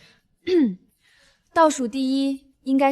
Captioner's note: cough